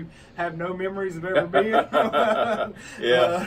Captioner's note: laughter